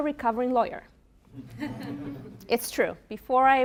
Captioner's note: laughter